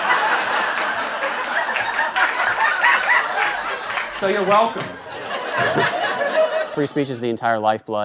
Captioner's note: audience laughter